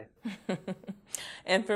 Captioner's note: laughs